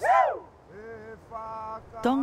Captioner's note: background Chanting